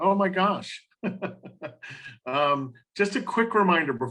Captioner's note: laughs